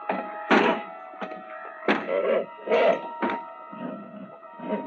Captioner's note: horse whining; door thudding